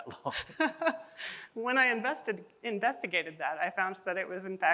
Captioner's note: chuckles